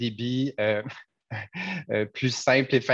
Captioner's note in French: laughs